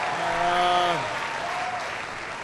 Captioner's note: applause